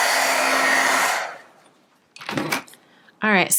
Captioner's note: whirring